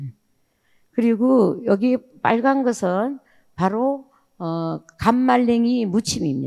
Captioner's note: speaking in foreign language